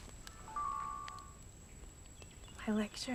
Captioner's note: camera dinging